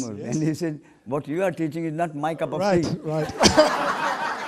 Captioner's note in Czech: smích